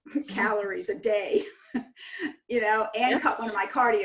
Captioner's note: chuckles